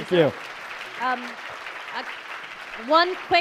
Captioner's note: applauding